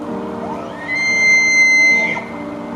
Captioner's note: elk call